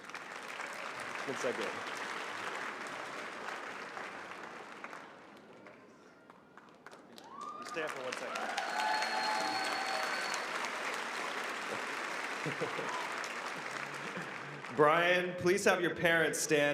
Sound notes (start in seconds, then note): 3.4 applause; 12.0 cheering and applause